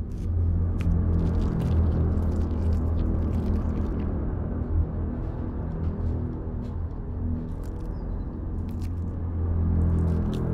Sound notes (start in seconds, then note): 0.0 ominous music; 0.7 blood squelching